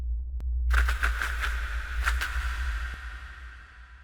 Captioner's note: wings flapping